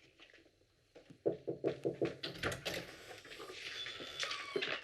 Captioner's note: knock on door